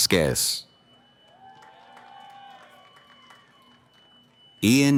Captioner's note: cheering